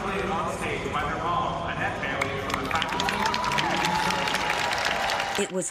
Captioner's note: applause